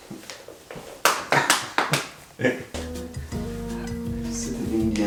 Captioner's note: hands tapping